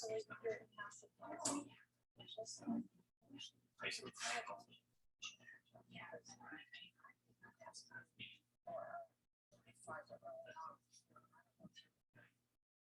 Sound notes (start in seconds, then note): 6.6 people chattering indistinctly continues